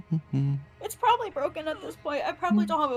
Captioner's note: humming; humming